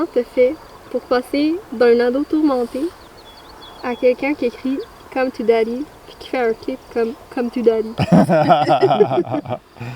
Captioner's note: laughs